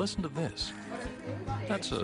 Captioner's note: family talking